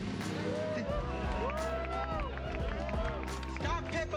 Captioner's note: crowd cheers